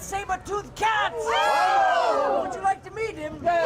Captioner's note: crowd shouts; crowd yelling